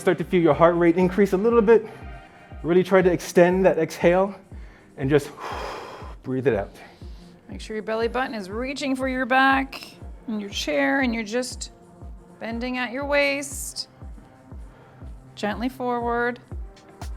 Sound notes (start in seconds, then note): 5.1 large exhale